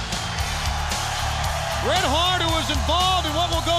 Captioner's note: crowd cheering